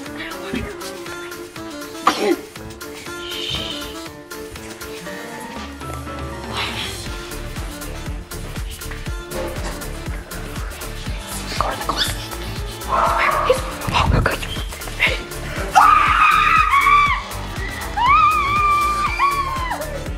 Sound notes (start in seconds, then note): 0.0 shushing; 2.0 sneeze; 2.4 shushing; 4.9 whispering; 15.7 screaming